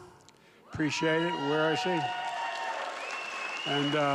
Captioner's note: applause